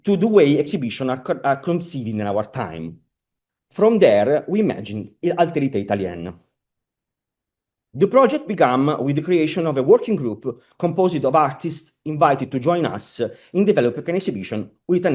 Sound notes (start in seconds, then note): 6.8 italian